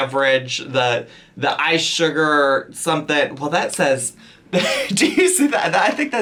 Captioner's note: laughs